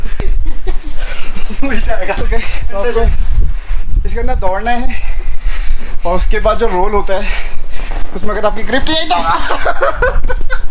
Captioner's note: laughs